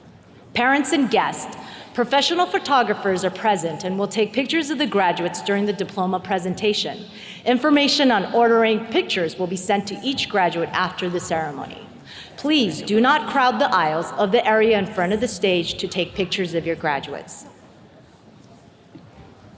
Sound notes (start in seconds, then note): none